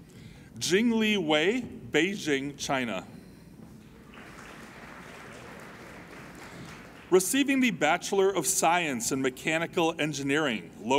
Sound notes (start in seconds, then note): 3.9 applauding